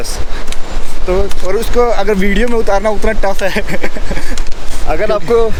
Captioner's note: laughs